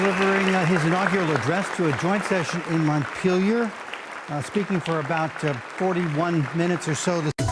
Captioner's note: applause